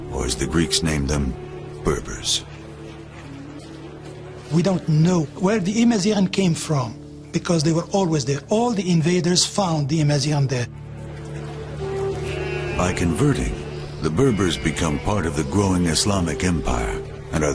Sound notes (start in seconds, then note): 12.0 sheep bleating